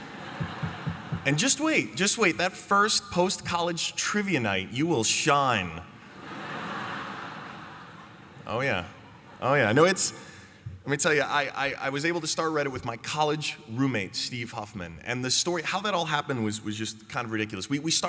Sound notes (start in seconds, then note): 0.0 laughter; 6.0 laughter